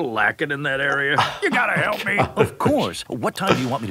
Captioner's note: laughing